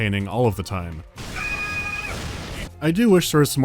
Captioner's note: grunt scream